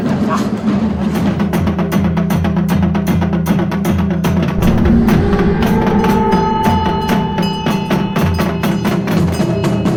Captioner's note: bell jingling; intense drumming